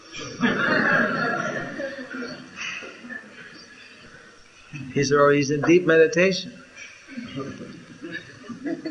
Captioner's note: laughter